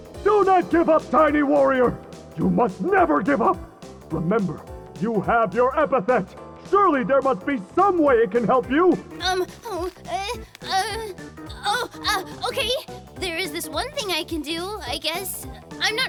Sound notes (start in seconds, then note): 9.2 Molly stammers